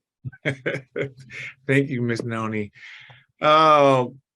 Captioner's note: laughs